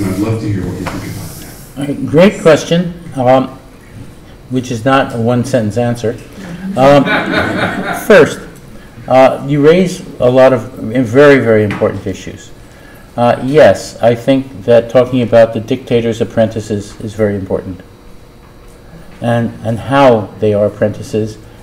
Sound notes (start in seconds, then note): 6.5 laughter